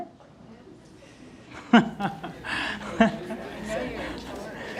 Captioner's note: audience chatter